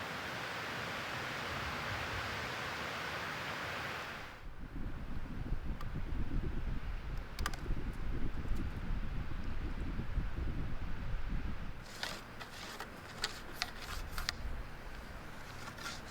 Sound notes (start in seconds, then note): 11.8 wood scraping